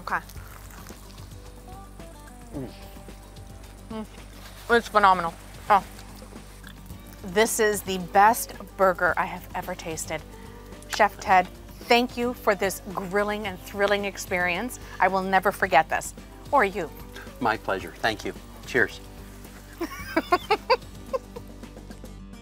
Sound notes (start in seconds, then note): 2.5 satisfied grunt